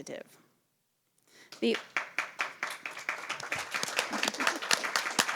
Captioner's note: applause